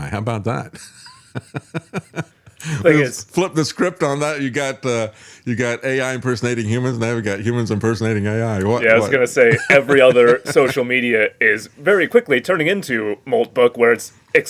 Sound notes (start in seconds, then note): 0.8 laughs